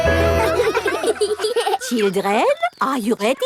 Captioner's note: children laughing